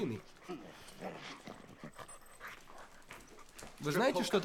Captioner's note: growling, panting